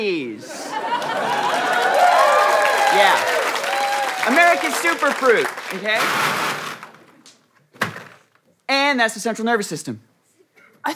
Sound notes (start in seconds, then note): 0.3 audience laughter, cheering; 6.1 berries clacking; 7.7 thud